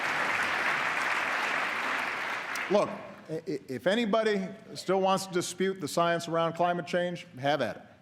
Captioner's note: applause